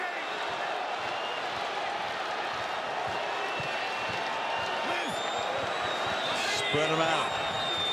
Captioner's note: crowd cheering